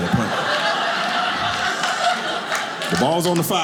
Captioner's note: audience laughing